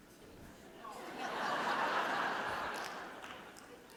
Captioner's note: audience laughing